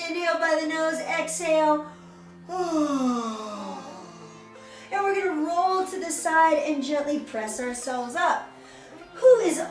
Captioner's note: yawn